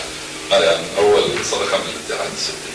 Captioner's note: someone is clearing his throat